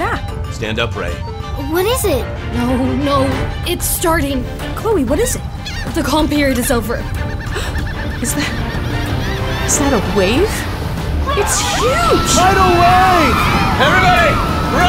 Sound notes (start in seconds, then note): 7.4 gasps